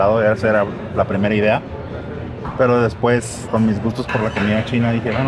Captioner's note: speak in Spanish